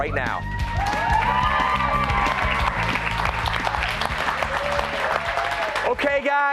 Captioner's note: cheers and applause